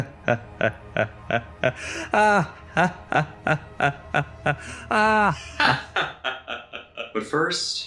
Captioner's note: maniacal laugh